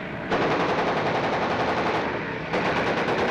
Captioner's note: guns firing